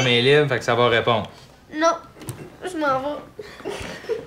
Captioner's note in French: rires